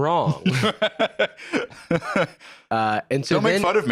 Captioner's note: laughs